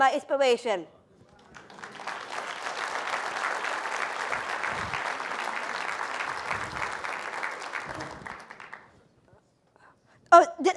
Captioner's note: applause